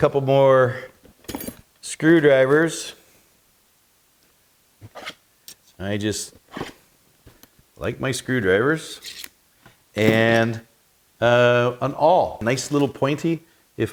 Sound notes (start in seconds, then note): 6.4 metal scraping; 9.1 metal scraping